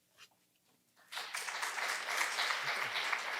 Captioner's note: applause